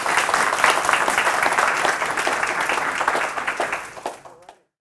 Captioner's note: applause